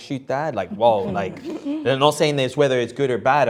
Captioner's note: group laughing